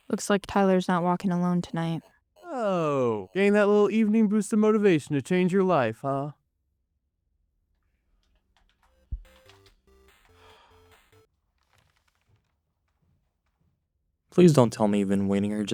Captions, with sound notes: Looks like Tyler's not walking alone tonight. - Oh, gain that little evening boost of motivation to change your life, huh? [game sounds] [sigh] [paper flipping] [footsteps] - Please don't tell me you've been waiting here